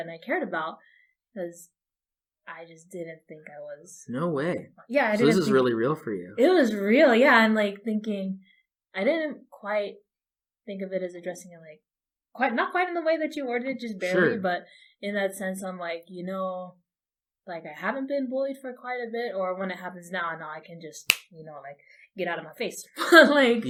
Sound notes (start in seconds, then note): 14.0 laughing